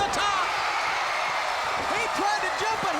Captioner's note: crowd cheers